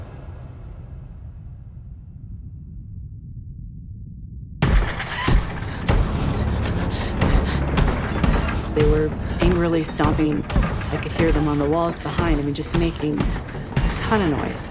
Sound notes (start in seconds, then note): 4.6 loud stomps